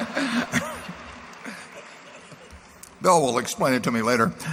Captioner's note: laughter